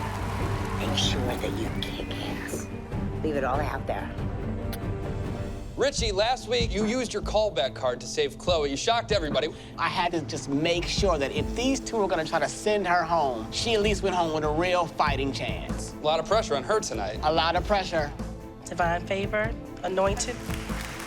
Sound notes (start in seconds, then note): 4.6 smooch